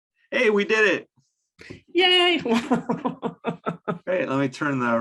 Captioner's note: laughs